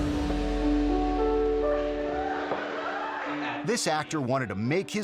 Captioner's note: gentle music; audience laughing